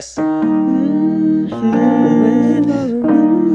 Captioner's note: piano music; humming